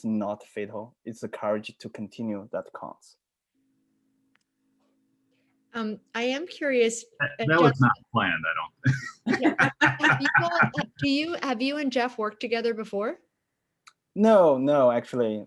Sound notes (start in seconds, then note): 8.5 laughs